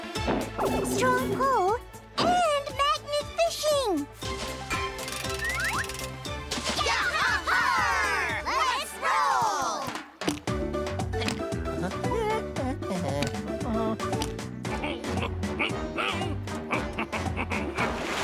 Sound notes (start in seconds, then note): 11.3 humming; 14.7 chuckling